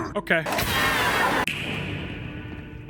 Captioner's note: creature screeches